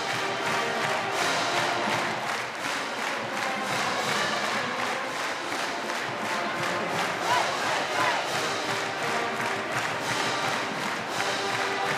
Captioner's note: chanting ucla